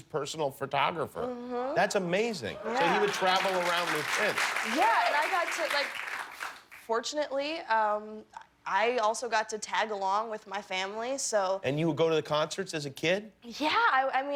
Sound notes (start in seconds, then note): 5.0 applause